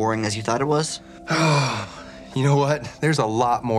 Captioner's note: sighs